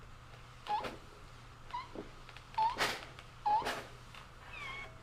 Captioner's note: press squeaking